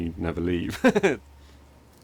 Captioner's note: laughs